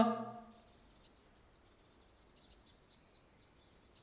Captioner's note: birds chirping